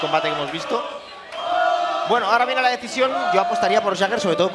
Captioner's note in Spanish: Gritos